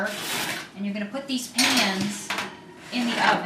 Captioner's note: oven rack clatters